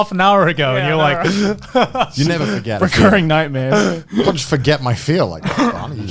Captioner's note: laughs